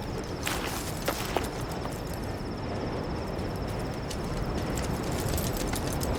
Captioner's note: crickets chirping; dog running